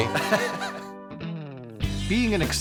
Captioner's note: laughing